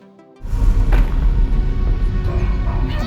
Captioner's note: engine revving